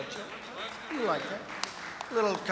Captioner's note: applause